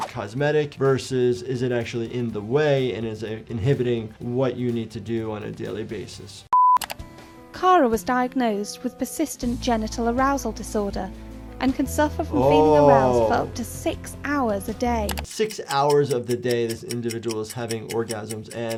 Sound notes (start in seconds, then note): 6.5 tone beeps; 6.6 mouse clicking